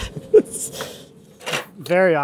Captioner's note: laughing